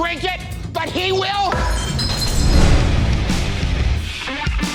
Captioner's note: glass shattering